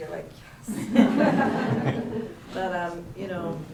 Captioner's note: laughs